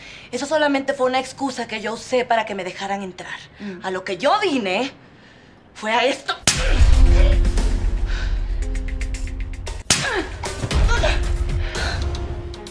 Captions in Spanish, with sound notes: Eso solamente fue una excusa Que yo usé para que me dejaran entrar A lo que yo vine... ¡¡¡Fue a ESTO!!! * C A C H E T A D A * * C A C H E T A D A É P I C A * *Respiración agitada*